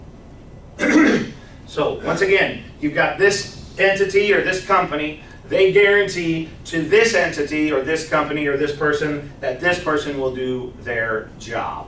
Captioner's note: clears throat